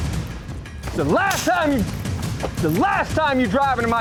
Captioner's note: rapid drum beat; gunshot